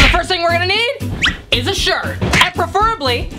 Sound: air whistles

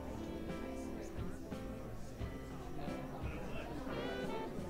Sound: crowd chattering

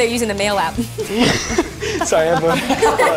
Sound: laughs

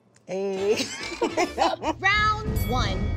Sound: women laughing

